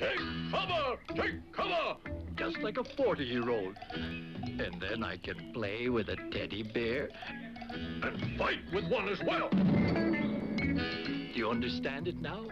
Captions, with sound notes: Just like a 40-year-old, and then I can play with a teddy bear, and fight with one as well! (stump thumps) Do you understand it now?